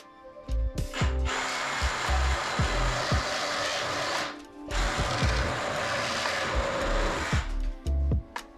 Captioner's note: saw sawwing